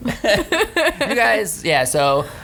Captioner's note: laughs